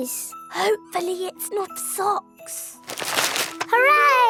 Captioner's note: whispering